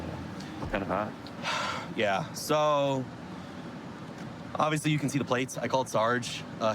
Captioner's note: sighs